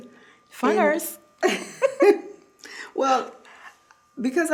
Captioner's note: laughing